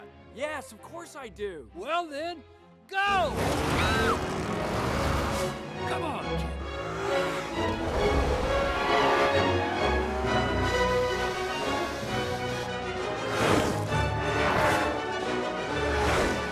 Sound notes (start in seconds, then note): 3.3 car engine revving; 6.5 car engines revving; 6.5 adventure music; 10.6 adventure music; 13.2 car engines revving